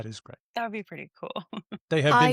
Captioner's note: laughs